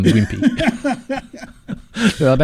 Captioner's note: laughing